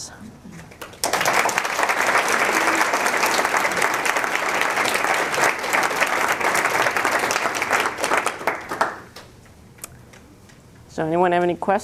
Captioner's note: applause